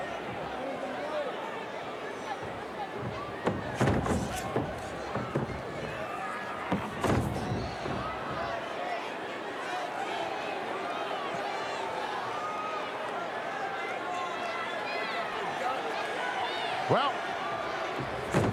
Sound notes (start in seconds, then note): 3.6 wrestlers scuffling